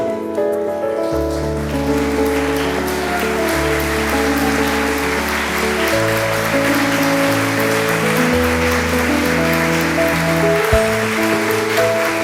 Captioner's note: applause from the audience